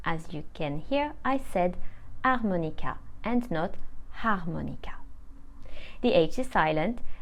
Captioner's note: hh